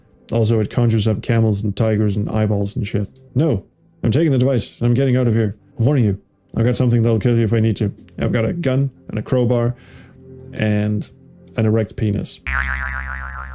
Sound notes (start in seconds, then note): none